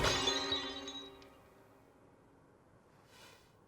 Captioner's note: crash